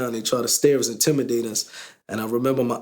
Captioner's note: none